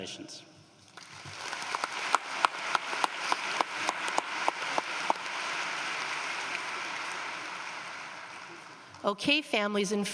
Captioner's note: applause